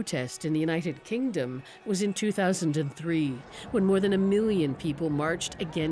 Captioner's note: chants